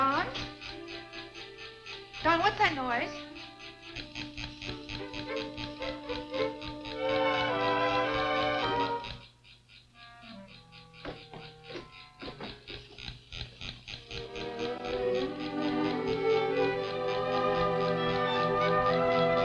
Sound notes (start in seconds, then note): 0.0 gentle music; 5.7 toy winding; 7.8 whimsical music; 10.7 toy winding; 11.6 door banging; 13.7 toy winding; 16.6 gentle music